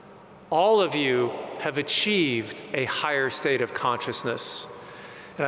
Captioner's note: none